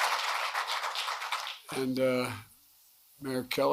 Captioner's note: applause